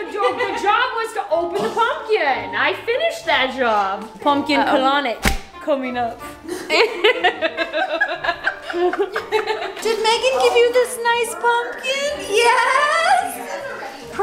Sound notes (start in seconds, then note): 5.2 rubber glove snapping; 6.5 laughing